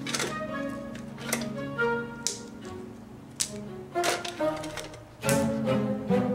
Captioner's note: upbeat music; candy canes snapping